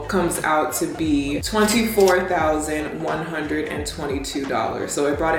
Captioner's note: cash register chiming